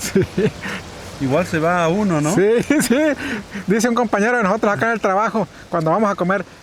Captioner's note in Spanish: risas